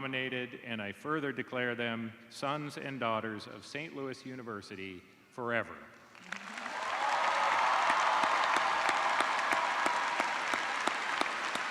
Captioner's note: cheers and applause